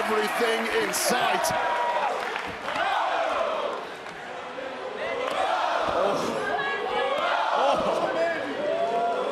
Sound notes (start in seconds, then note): 1.9 crowd cheers